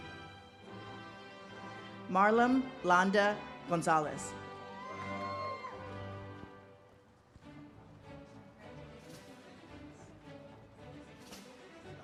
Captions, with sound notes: Marlem Landa-Gonzalez. (audience cheers)